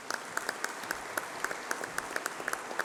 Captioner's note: applause